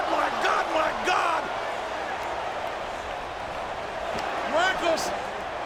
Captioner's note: crowd clamoring